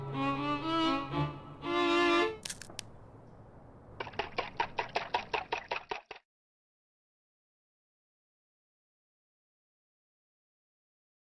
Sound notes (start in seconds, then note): 2.4 cracking; 3.7 rhythmic tapping; 4.0 splashing